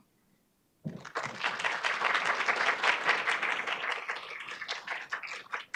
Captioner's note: audience applauding